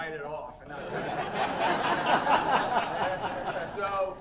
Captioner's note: audience laughing